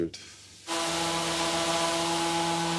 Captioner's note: loud machine whirring